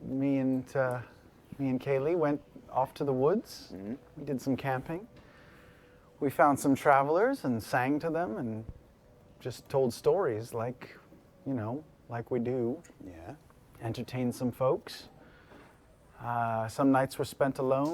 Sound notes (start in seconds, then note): none